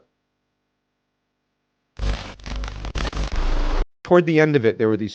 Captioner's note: static hissing